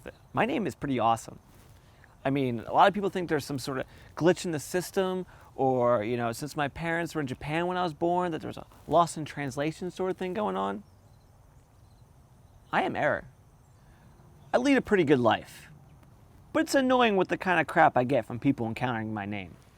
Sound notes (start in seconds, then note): none